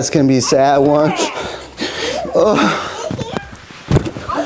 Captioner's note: fake crying